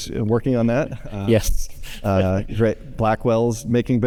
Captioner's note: laughs